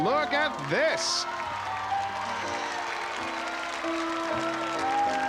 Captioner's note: cheering; piano music